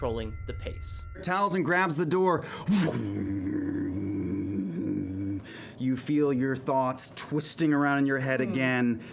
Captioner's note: deep humming